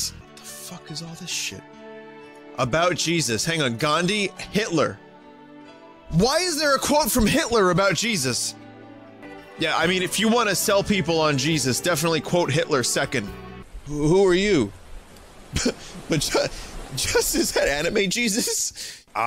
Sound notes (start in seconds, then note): 15.6 laughs